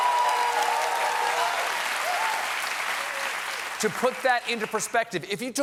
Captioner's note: cheers and applause